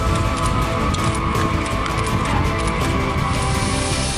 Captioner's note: epic music; camera shutters clicking; plane engine roaring